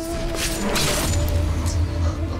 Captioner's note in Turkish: Kılıç saplanma sesi